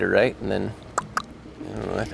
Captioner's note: clicks mouth